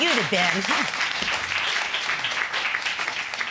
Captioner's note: audience applauding